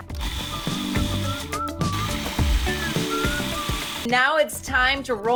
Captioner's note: blender running